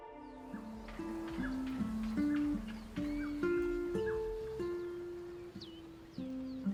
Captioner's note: birds chirping; calm guitar music